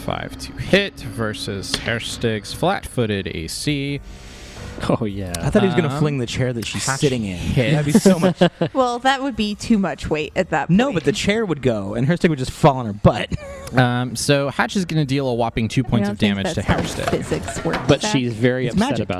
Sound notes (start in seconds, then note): 13.2 laughs